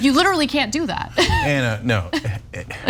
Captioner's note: laugh